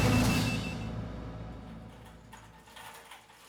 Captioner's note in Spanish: Alarma; Ruido de la silla